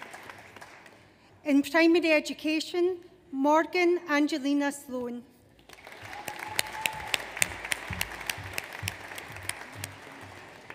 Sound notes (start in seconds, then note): 5.6 audience applauds